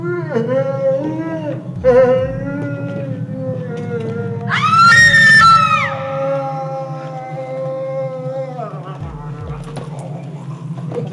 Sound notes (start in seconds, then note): 4.2 screaming